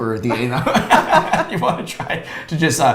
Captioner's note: both laughs